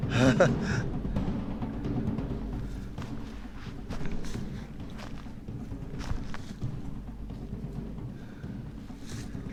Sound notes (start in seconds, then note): 0.0 nervous laughing; 5.6 footsteps